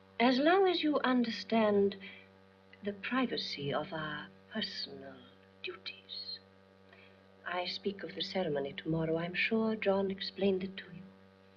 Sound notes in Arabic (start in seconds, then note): none